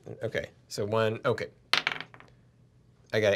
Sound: die clacks

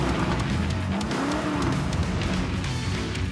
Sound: engines zoom

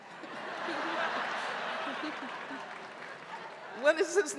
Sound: audience laughing

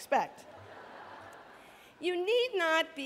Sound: laughter

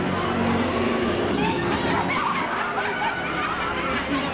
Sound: yells and laughter

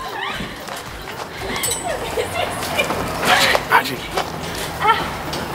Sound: laughing

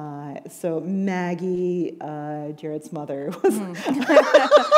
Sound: laughter

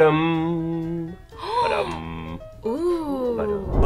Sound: gasps

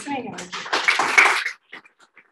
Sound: audience claps

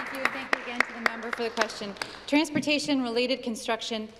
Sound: applause

